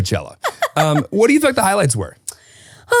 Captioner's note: laughing